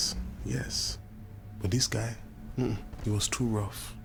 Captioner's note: grunts